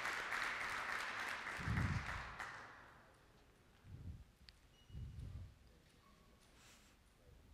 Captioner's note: applause